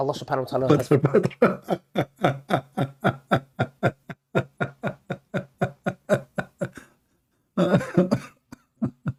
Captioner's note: Ketawa